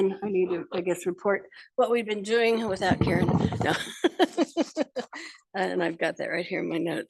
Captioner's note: laughing